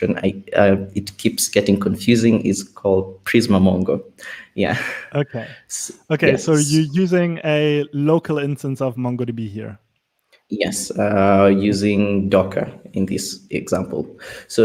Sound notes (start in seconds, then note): 4.8 sighs